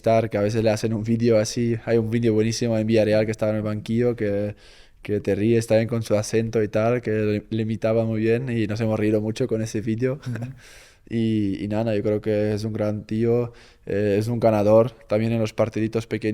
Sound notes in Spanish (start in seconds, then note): 10.2 risas